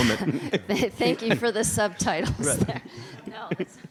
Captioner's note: laughing